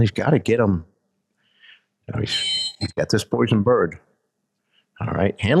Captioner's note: whistle blows